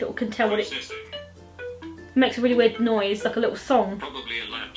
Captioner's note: phone plays tune; phone speech